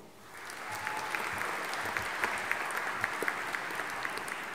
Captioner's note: audience applauding